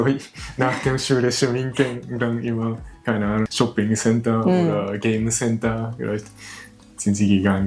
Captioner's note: laughs